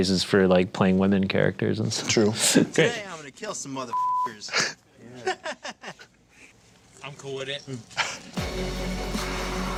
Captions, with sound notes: for like playing women characters. - True. - Today I'm gonna kill some mother (beep) (laughs) - I'm cool with it.